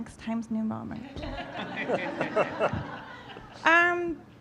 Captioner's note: audience laughing